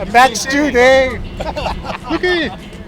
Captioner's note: laughter